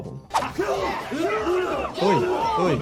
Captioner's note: fighters grunting; audience cheering